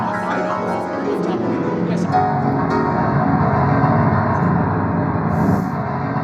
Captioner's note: people chattering; chaotic piano music